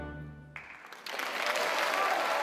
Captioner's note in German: Applaus, Jubel